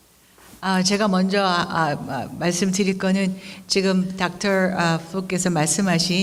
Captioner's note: speaking in foreign language